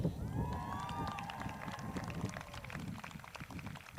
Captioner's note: crowd cheers